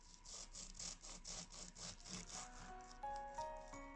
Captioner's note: cutting noise